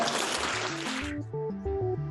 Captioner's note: applause